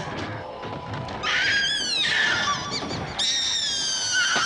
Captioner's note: high-pitched screaming